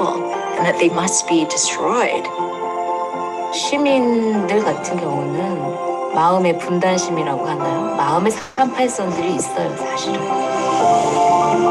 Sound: women speaking Korean

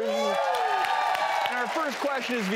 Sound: audience claps

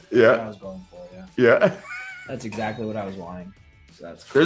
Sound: laugh

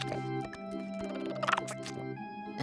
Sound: chirping; chuckles

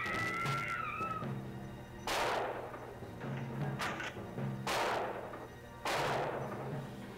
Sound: screams

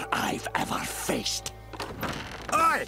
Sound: door opens

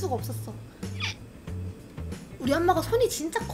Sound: burp

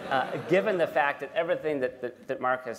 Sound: laughter

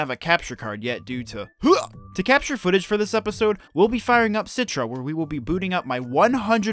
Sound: gags

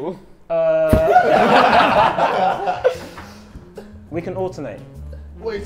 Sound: everyone laughs

